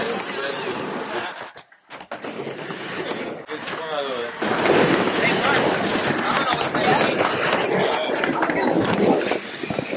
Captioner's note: the sound of skateboards grinding; chatter